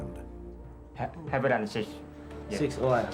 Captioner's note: member speaking in foreign language